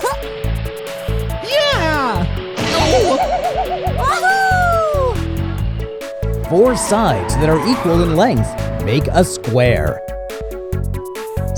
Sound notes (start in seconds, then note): 0.0 giggling; 2.9 grumbling